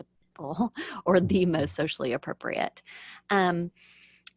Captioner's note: laughs